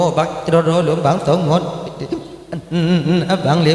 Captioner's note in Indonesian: tertawa